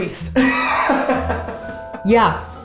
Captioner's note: laughs